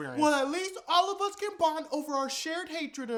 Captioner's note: none